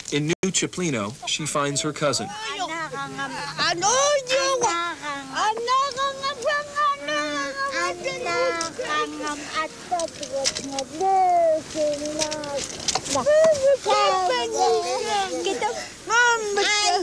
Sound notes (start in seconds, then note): 2.7 speaking yup'ik dialect